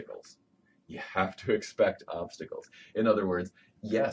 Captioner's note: laughs